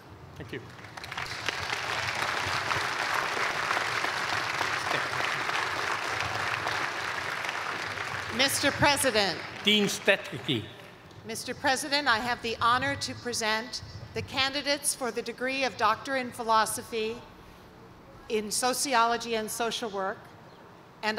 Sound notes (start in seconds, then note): 0.5 applause